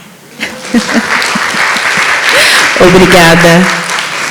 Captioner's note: laughs; audience applauds